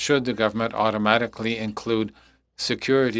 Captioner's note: speaking French